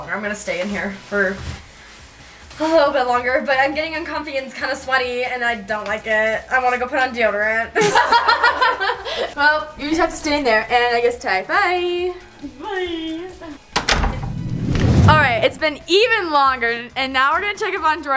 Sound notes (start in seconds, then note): 7.8 laugh; 13.7 door clicking; 14.0 air whooshing